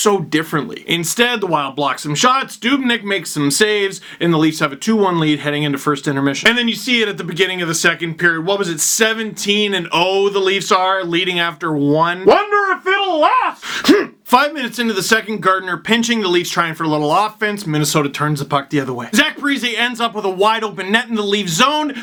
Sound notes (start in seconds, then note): 12.2 angry noises